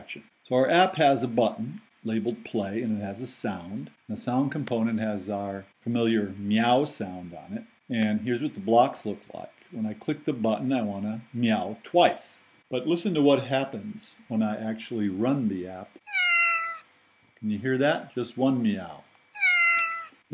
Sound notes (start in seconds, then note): 16.0 meow sound; 19.3 meow sound